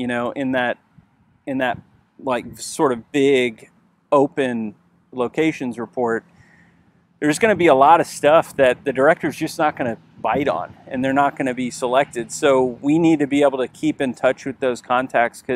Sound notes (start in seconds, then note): none